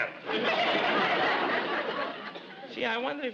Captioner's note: audience laughs